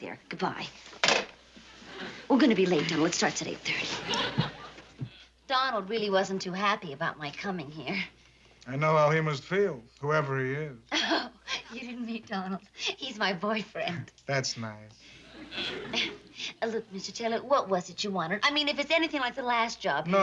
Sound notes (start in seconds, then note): 10.9 laughs